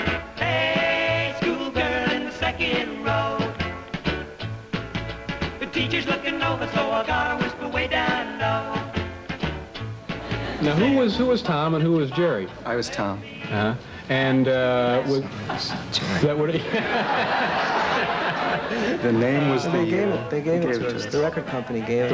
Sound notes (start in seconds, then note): 10.2 audience laughter; 15.5 audience Laughter